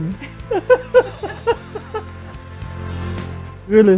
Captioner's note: laughter